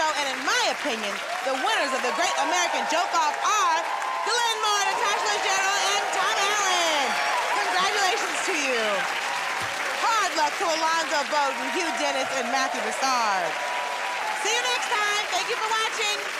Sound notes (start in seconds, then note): 7.4 cheers and applause; 13.0 cheers and applause